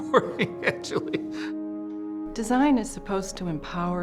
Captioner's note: laughing